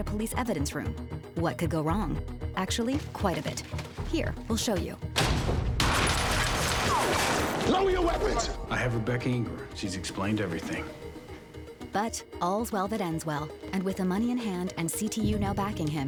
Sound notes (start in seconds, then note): 5.2 gunshots